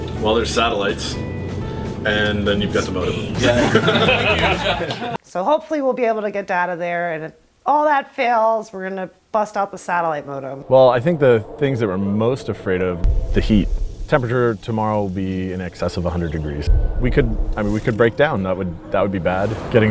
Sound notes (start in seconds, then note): 3.3 laughter; 11.6 eerie music